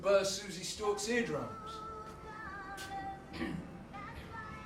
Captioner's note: car arriving outside